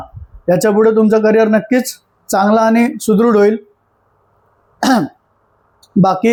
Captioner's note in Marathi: घसा साफ करणे